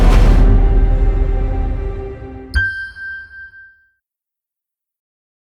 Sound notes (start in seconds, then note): 2.5 logo dings